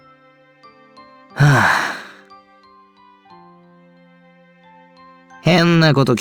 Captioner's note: sigh